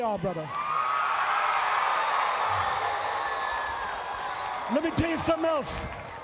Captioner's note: crowd cheering